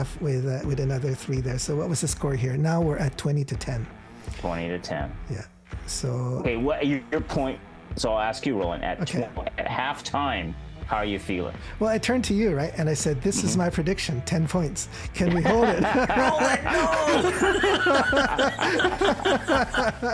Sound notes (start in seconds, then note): 15.2 laughing